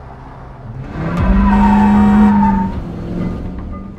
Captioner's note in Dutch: claxon; piepende wielen